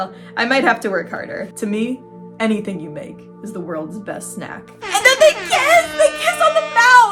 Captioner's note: airhorns